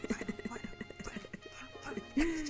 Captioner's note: laughter and music